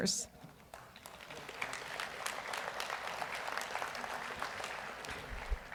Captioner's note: audience applauds